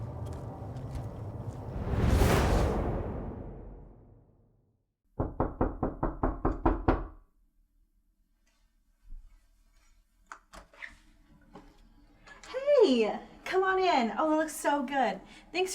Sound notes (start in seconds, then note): 2.7 suspenseful music fades; 5.2 door knocking